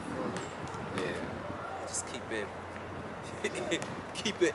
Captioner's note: laughs